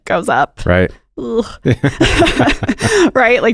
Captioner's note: both laughing